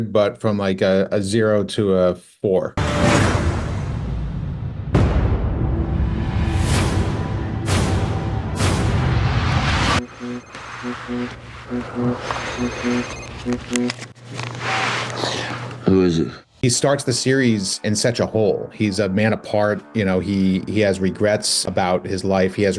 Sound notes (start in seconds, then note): 9.9 phone buzzing; 10.0 phone ringing